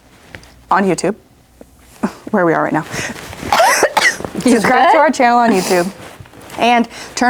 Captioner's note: coughs